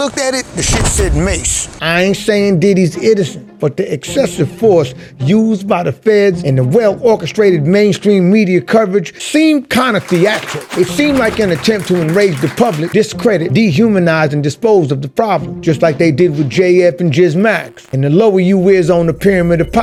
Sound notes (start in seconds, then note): 9.8 audience applauds